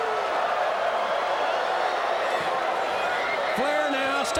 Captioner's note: crowd cheering